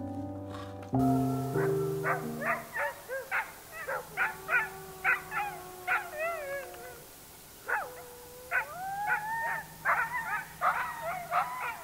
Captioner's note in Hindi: कुत्तों का भौंकना